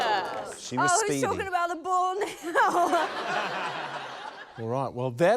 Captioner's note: laughs